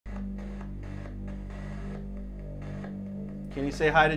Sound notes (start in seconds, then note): 0.0 machine noises